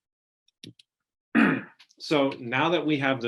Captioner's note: clearing throat